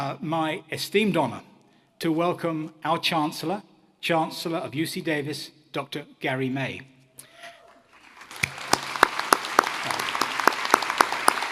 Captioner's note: applause